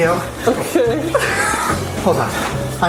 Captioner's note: laughs